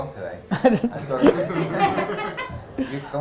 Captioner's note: group laughs